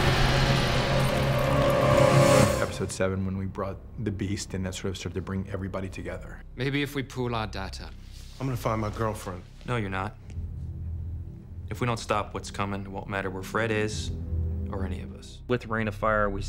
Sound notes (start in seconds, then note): 2.6 thunder